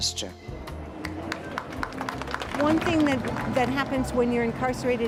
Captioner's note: applause